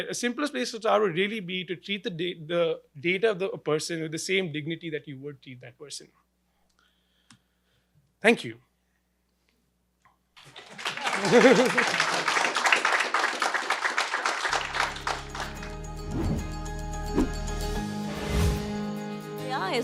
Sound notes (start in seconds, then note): 10.4 clapping; 16.6 gentle music